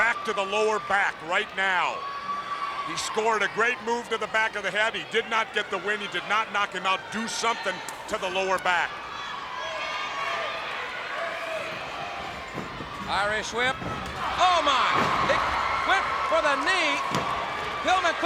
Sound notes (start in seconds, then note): 1.9 crowd clamoring; 11.6 footsteps plodding; 13.6 body thudding; 14.5 crowd cheering